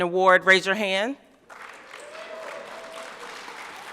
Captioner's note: applause